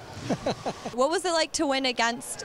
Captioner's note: laughing